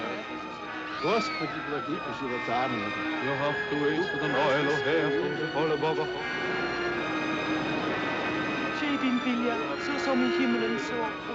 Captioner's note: Orando em Língua Estrangeira